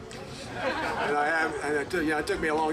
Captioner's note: group laughing